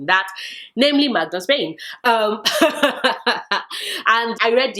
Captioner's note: laughs